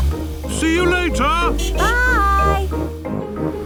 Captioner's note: honking